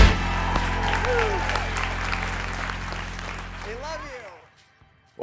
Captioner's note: audience applauding